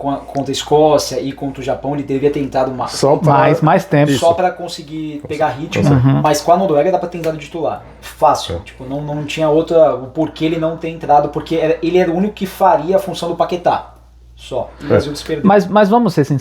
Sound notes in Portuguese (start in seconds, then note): 14.6 limpando a garganta